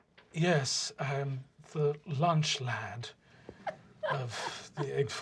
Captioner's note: soft, accented voice; laughter